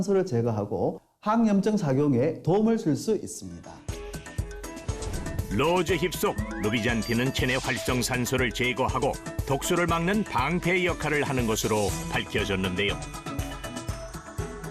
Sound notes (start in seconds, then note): 3.8 voiceover